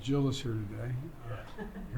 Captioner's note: laughter